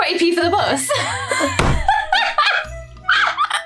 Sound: laughs

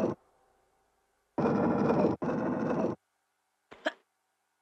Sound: gruntings; more gruntings

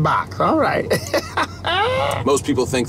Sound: laughs

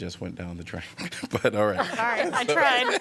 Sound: laughter

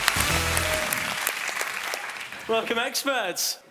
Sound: applauding

